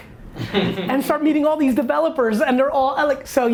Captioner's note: laughing